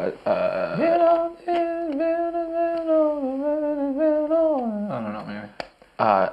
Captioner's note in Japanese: 鼻歌